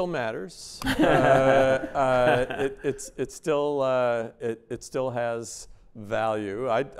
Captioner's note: laughter